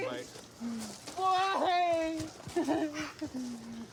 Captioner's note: sobs